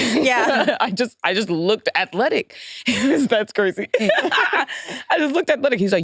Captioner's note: laughs